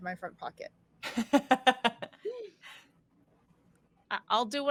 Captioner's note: laughs